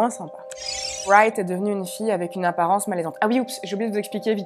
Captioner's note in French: bip